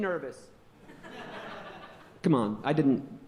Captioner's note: audience laughing